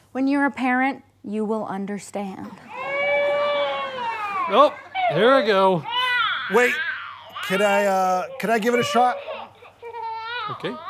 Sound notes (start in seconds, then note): 2.9 baby crying